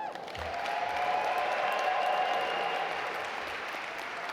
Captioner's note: audience applaud